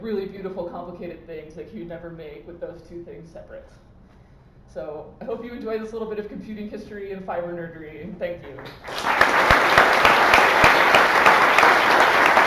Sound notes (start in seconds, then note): 8.4 applause